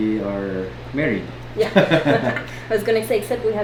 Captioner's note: laughs